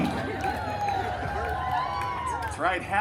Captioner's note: guests cheering